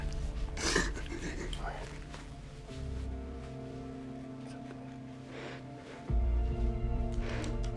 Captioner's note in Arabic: بيني تبكي